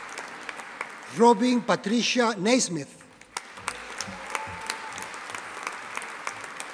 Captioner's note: audience applauding